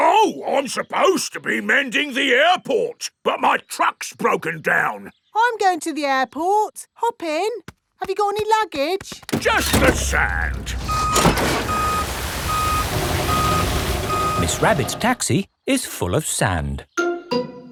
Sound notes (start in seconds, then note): 11.2 beeping